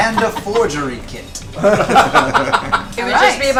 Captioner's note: all laugh